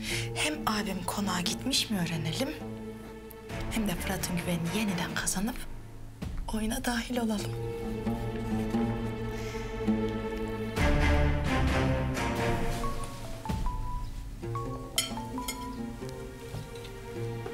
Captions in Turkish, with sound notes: Hem abim konağa gitmiş mi öğrenelim.. ..hem de Fırat'ın güvenini yeniden kazanıp.. ..oyuna dahil olalım. [Gerilim müziği] [Telefon çalıyor]